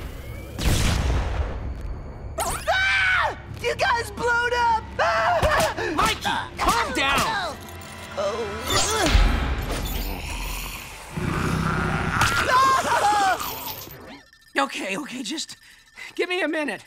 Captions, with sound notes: [screaming] You guys blowed up! Mikey, calm down. [growling] [screaming] Okay, okay, just... give me a minute.